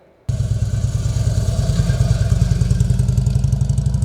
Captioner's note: engine roars